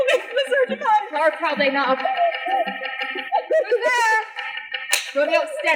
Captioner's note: knocking